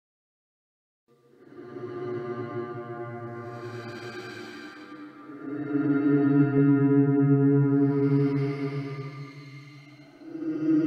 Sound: chilling sound

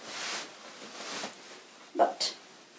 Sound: petticoat swishes

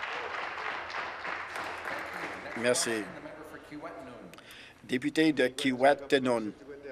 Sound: applause

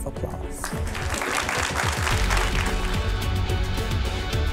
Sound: audience applause; upbeat music

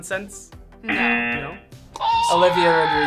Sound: buzzer sounds

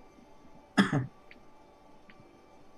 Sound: coughs

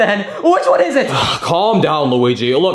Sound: Bowser sighing

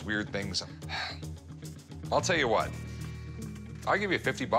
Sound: sighs

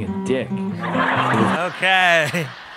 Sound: audience laughs

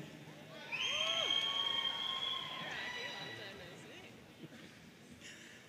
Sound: audience cheering

